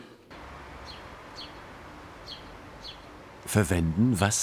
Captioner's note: birdsong